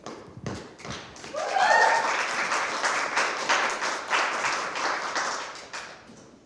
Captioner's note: applause